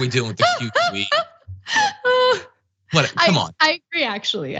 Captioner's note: laugh